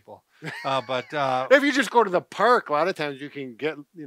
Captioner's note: chuckles